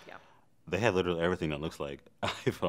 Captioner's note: chuckles